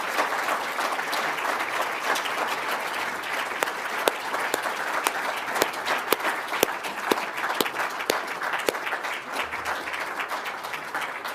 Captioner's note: applause